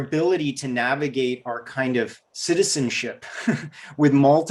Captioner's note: giggles